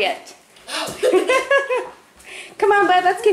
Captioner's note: laughs